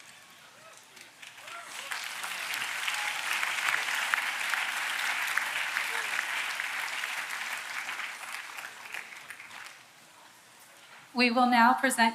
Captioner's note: applause